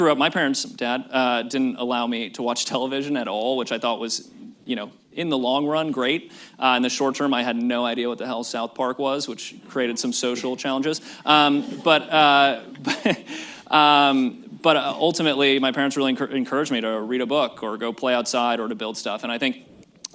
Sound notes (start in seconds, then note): 11.3 laughs; 12.6 laughter